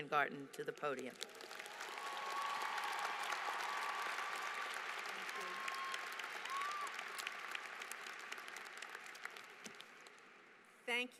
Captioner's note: applause